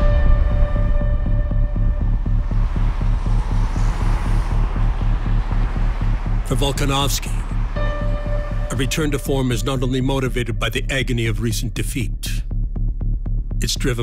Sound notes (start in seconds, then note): 0.3 low key dramatic music; 2.8 vehicles whooshing